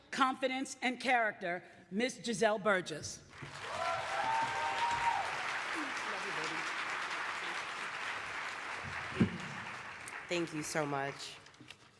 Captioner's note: applause